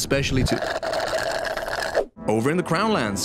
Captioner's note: slurp